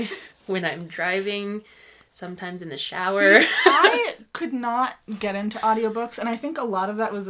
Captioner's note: laughs; laughs